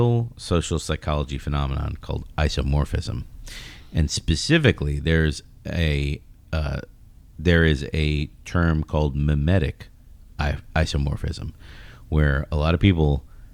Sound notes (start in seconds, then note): 10.1 uh